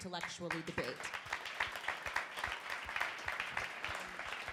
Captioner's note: crowd applauding